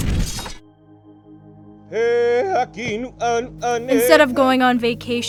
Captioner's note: man chanting in hawaiian